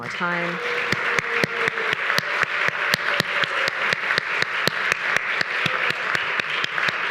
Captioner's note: attendees applauding; attendees cheering